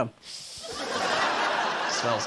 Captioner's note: inhales deeply